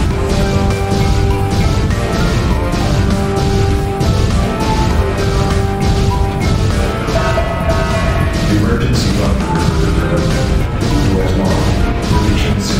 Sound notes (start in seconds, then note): 0.0 laser explosion; 7.1 announcement Chime